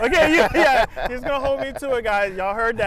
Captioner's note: both laugh